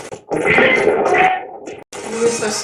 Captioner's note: radio scratching; radio voice